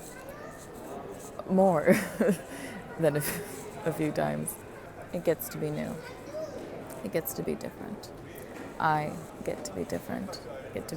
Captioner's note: chuckles